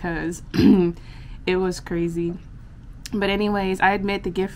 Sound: clears throat

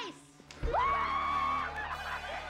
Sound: cheeri ng; umdr roll

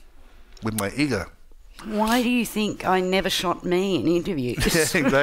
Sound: laughs

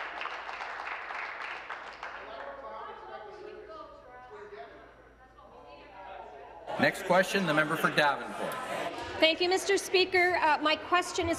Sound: applause

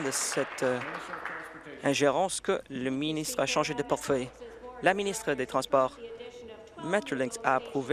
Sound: applause

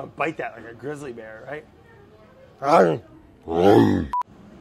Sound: bear growling

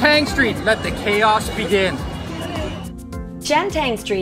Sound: crowd bustling

